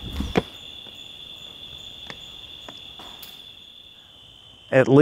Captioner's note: crickets chirping